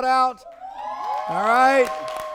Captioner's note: people cheering